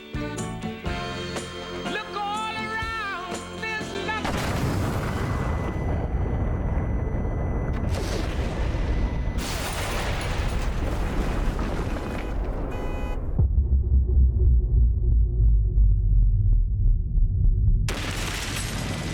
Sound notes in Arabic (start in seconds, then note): 2.6 انفجار قوي; 4.9 رنين عالي النبرة; 6.3 هدير الأرض; 9.4 تحطيم الزجاج; 10.2 أصوات إنذار السيارة تدوي; 13.2 طنين منخفض; 16.1 تحطيم الزجاج